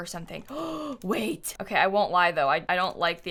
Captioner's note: gasps